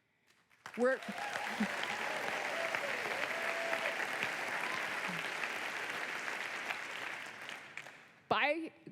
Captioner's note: applause